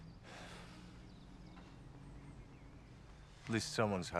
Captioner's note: Rob sighs